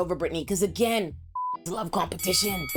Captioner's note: beep